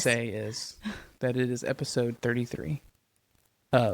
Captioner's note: laughs